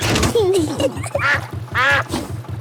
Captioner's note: level clangs; kids giggling; quacks